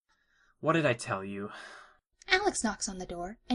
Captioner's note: sounding as if tired of repetition